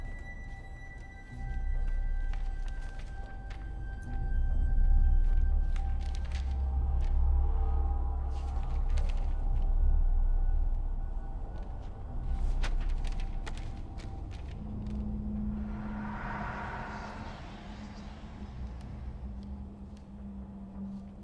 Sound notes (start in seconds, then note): 0.2 gentle ominous music; 6.2 papers rustling; 15.9 eerie music; 18.1 voices whispering